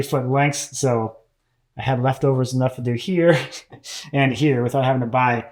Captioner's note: laughs softly